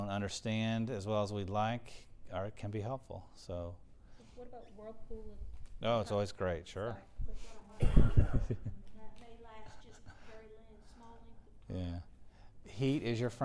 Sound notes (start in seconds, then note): 7.8 laugh